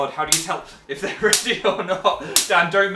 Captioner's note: laughing